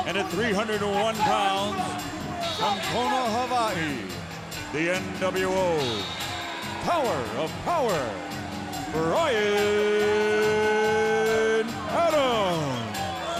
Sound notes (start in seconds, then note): 0.0 referee loudly coaching; 10.3 wrestler chattering